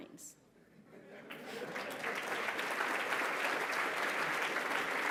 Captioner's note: applause